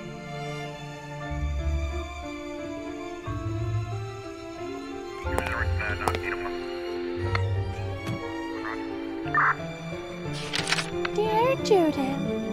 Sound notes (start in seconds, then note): 5.2 police radio chatter; 11.3 voice-over